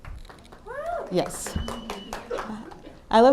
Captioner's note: applause